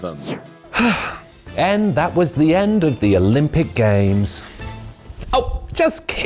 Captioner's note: sighs